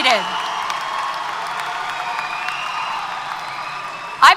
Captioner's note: applause & Cheers